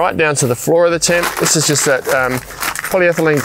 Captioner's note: trap crinkling